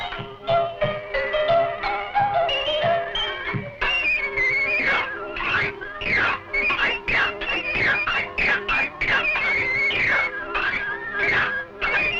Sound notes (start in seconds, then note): 4.9 washboard scraping rhythmically